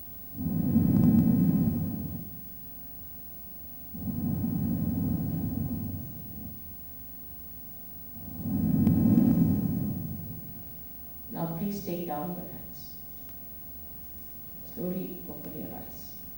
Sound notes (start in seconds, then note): 0.3 shri mataji blows into the microphone; 3.9 shri mataji blows into the microphone; 8.1 shri mataji blows into the microphone